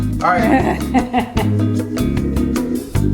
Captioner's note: woman laughing